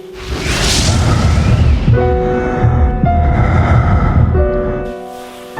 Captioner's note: breathing heavily